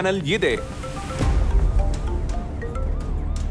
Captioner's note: mobile phone chimes